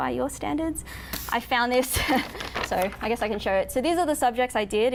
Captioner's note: laughs